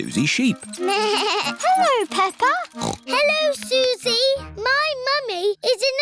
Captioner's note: bell ringing; bleats; snorts